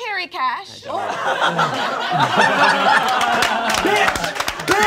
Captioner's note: all laughing